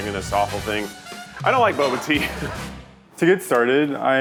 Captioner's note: laughs